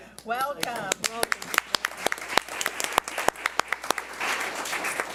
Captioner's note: audience applauds